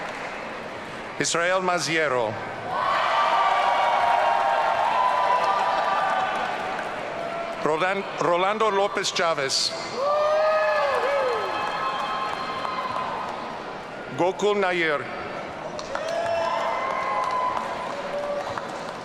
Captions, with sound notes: Israel Maziero. (audience cheering) Rolando Lopez Chavez. (audience cheering) Gokul Nair. (audience cheering)